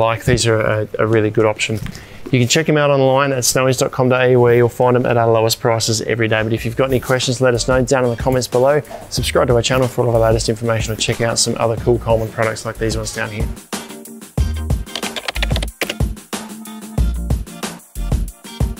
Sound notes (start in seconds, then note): 13.7 upbeat music; 14.8 keyboard clicking